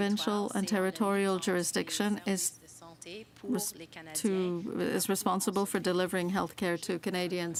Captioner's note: speaking french